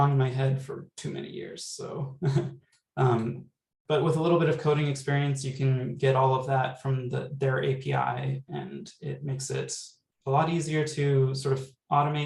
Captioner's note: laughter